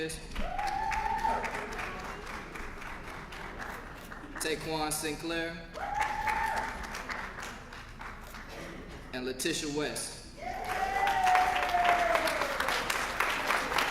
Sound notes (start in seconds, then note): 0.4 applause; 5.8 applause; 10.6 applause